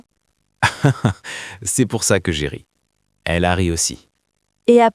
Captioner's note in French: rire